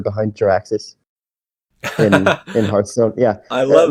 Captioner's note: laughs